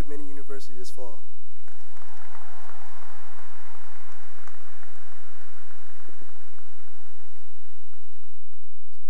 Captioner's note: cheering and applause